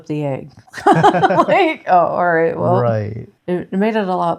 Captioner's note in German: lacht